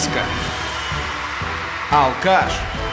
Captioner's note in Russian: аплодисменты